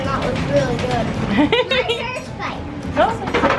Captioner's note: laughing